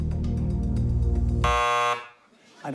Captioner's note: buzzer